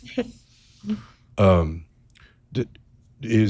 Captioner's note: chuckles